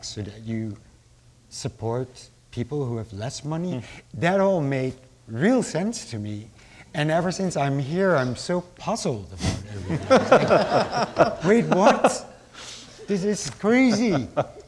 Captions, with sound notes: so that you support people who have less money, that all made real sense to me. And ever since I'm here I'm so puzzled about everything. (laughing) Wait what, this is crazy.